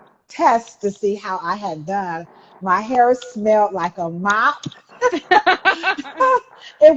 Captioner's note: laughs